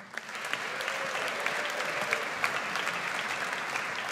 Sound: audience applauds

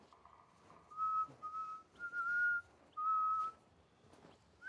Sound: person whistling

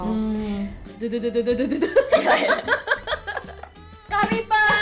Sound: Wheel of Fortune sounds

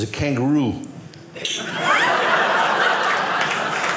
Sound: audience laughing

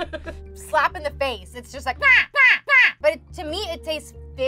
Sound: laughter; mild yell

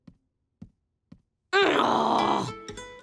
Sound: groaning

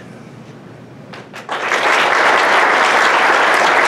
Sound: applause

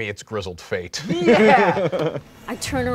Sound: laughing

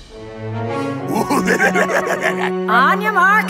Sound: evil laugh

